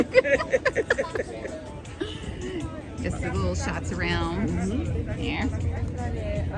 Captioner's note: laughing